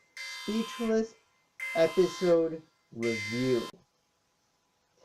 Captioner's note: alarm stops